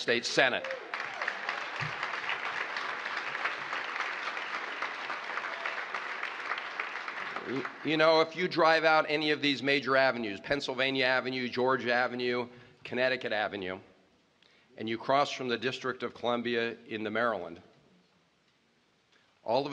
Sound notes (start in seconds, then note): 4.0 applause